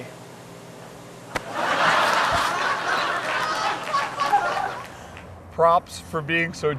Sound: laughter

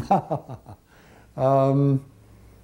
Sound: laughter

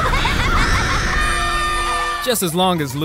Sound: laughing; screaming

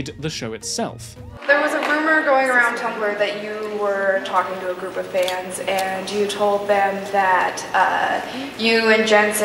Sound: fan

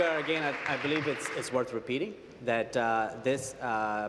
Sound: applause

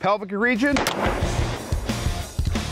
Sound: gun shots; dramatic music plays

